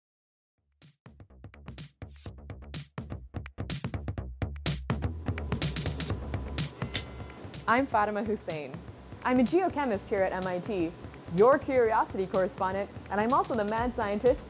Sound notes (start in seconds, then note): 6.9 camera click